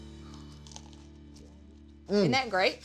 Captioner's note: moist crunch